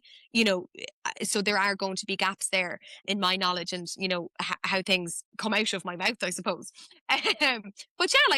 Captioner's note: laughs